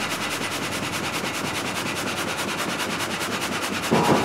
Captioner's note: machine noise